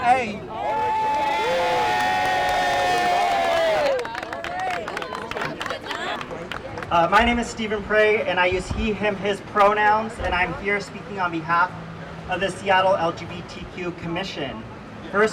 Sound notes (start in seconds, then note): 0.4 cheers and applause